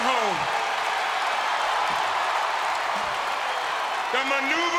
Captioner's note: crowd cheers